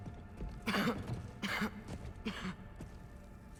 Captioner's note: coughing